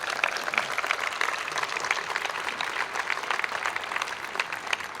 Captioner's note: applause